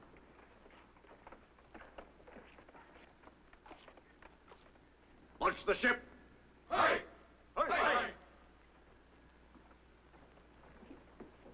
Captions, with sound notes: - Watch the ship? (troops chanting)